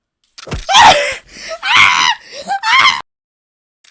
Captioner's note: Hana screams